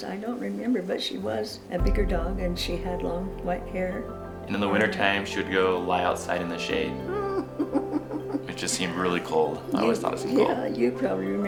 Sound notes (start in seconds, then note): 7.1 laughter; 10.6 laughter